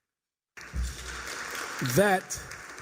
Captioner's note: applause